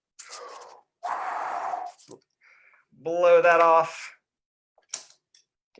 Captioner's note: blows